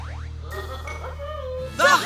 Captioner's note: giggling